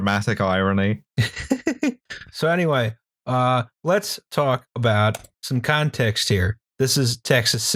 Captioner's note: laughter